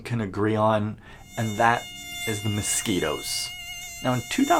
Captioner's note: mosquito whines